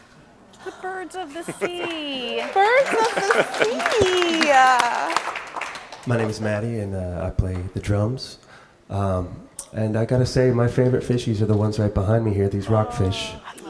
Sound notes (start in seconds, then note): 4.5 audience claps